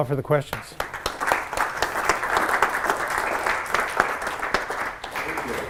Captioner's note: applause